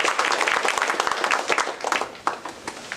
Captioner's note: applause